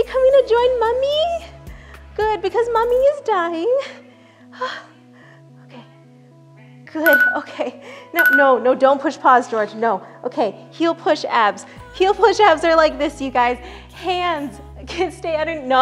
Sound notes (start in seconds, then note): 4.9 exhales; 8.2 timer beeps